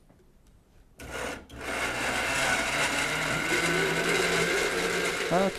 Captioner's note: whirring of blender